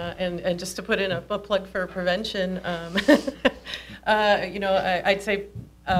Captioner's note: laughs